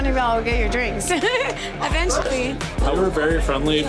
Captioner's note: giggles; laughs